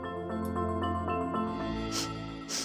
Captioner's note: sniffs